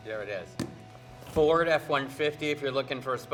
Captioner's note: mic thudding